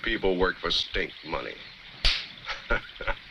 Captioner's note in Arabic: ثور يضحك